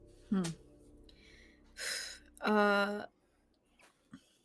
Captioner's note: sharp exhaling